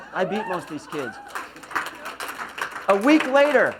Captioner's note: laughs; applause